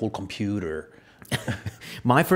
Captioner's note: laughs